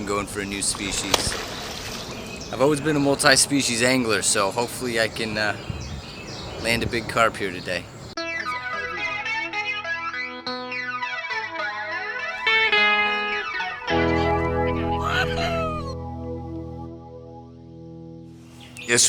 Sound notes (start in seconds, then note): 0.6 water splash; 8.2 theme music